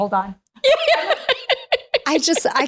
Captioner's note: laughing